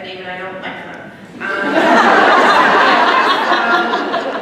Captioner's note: laughter